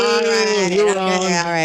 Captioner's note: cheering